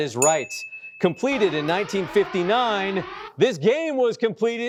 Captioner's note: alarm blaring